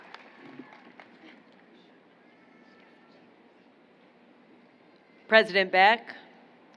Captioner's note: applause